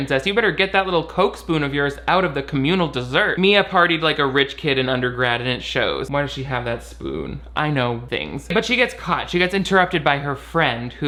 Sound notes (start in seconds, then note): none